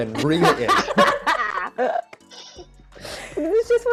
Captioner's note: people laughing